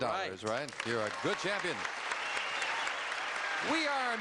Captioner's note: applause